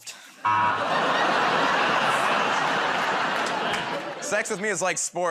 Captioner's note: laughter, buzzer